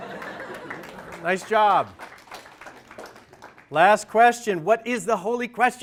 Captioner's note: applause/laughter